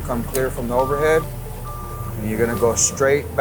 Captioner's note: lift alarm beeps